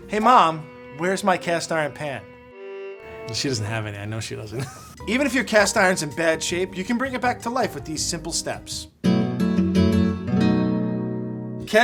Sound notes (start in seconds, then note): 4.2 laughs; 9.6 soft pleasant acoustic guitar music